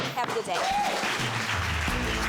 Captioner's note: audience claps and cheers